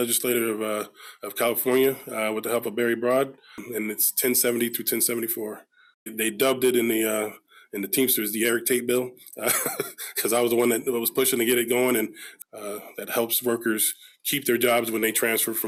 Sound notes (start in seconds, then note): 9.4 laughs